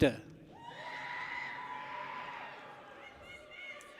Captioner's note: people cheer